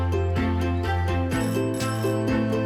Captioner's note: doorbell